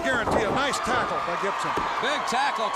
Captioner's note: crowd cheering